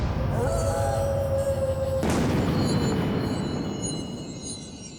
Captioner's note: eerie howling